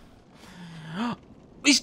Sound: gasps

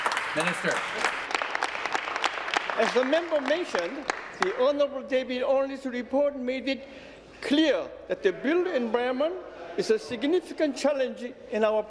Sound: applause

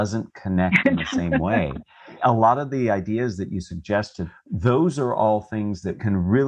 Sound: laugh

